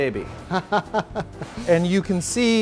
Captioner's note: laughing